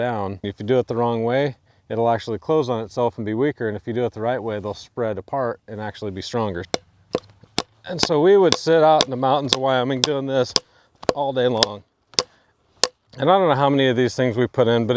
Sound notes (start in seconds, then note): 6.8 hammer thudding